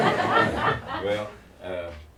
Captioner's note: laughter